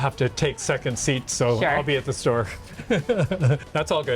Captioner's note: chuckles